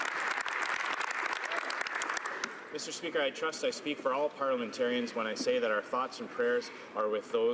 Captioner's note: some Applause